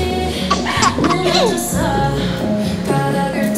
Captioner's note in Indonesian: Mencoba menahan tawa